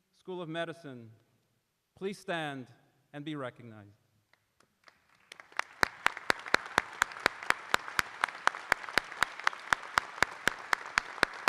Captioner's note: applause